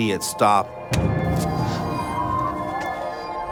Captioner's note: grunts